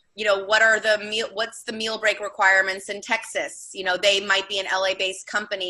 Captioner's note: none